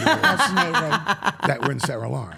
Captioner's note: Steph laughing